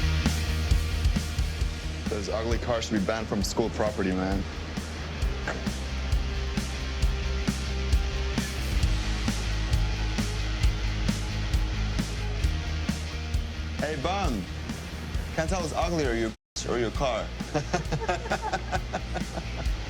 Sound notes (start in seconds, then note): 5.2 car door thudding; 6.8 upbeat music; 17.4 all laughing